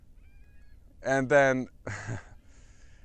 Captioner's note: laugh